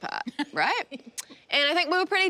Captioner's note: laughing